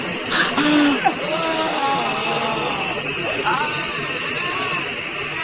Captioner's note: all gasping and groaning